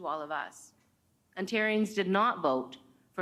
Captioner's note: none